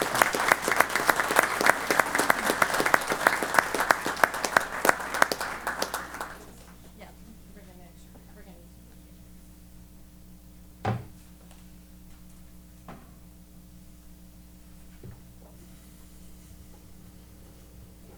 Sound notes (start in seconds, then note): 0.0 applause; 6.9 indistinct chatter